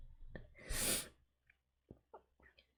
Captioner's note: sniffs